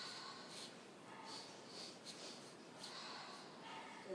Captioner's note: sniff, sniff, sniff